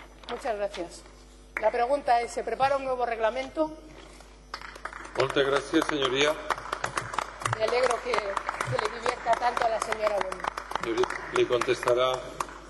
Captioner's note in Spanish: Aplausos